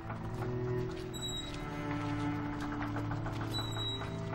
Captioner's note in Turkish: Kapı gıcırtısı sesi